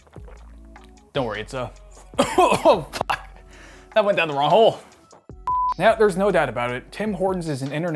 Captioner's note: chokes